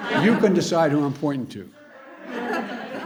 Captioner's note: laughter